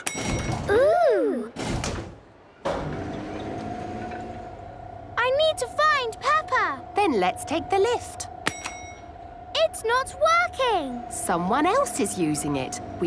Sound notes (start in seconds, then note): 0.0 lift pings; 1.6 lift moving; 6.8 lift pings